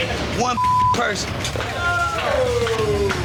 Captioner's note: beep